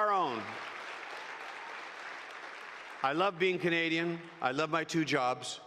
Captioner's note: applause